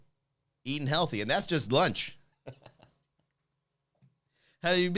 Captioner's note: laughs